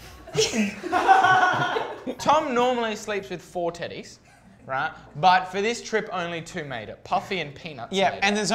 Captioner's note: laughing